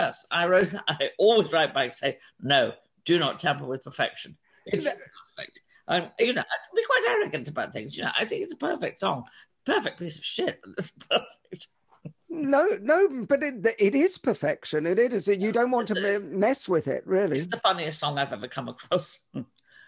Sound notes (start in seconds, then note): 10.8 chuckles